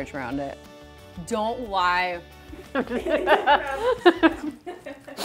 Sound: laughter

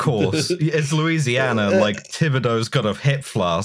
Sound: laughter

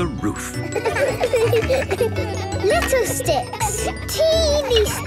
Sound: laughter

